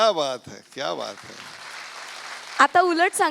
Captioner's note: audience applauds